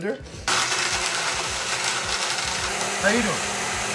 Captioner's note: blending sound